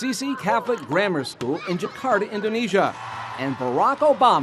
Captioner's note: audience cheering